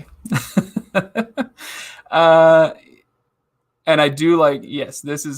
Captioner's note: laughing